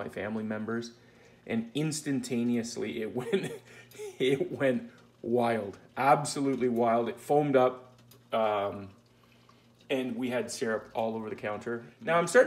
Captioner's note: laughing